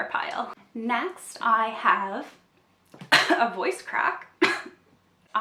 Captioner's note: coughs; coughs again